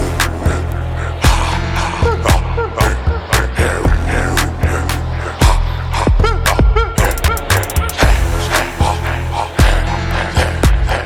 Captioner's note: grunting